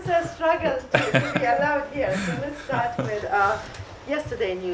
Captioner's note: laughter